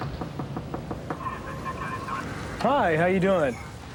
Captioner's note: knocking